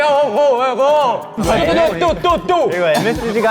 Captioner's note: the sound of war in his dream